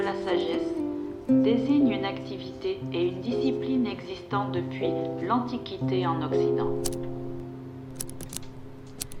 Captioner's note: French